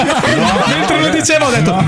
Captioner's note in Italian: laughter